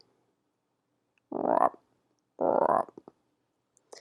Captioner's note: croaks